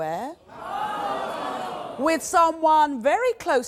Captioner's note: audience groaning